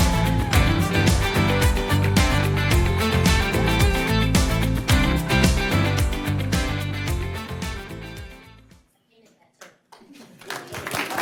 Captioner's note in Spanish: vítores y aplausos